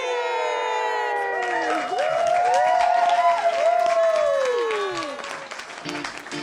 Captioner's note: audience applauding and cheering; funky rock music